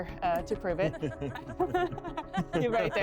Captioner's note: laughing